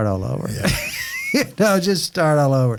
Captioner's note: laughing